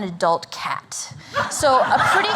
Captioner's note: laughter